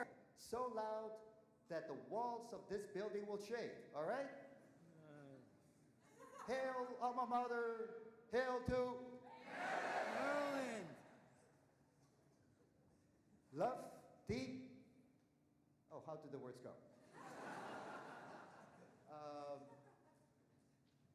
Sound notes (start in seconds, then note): 17.1 audience laughing